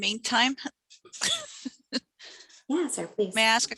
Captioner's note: laughs